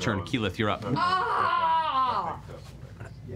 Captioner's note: yells